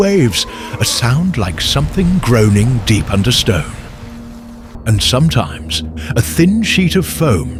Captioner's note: groaning